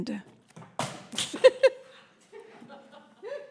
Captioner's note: laughs